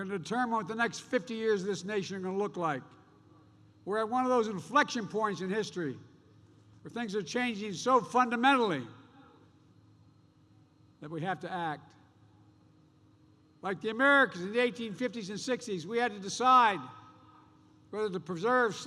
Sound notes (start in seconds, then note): none